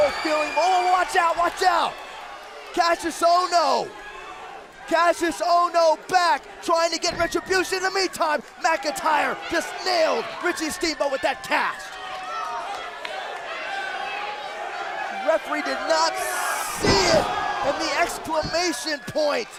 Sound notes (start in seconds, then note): 13.9 crowd cheering